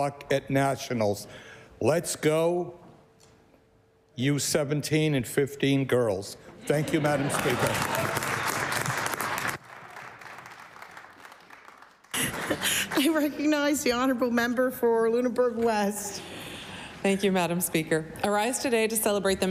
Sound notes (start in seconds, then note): 10.5 applause